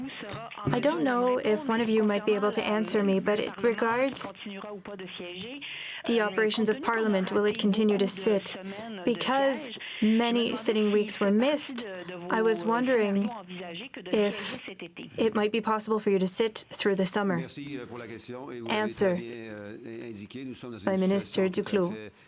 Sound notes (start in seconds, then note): 5.0 speaking French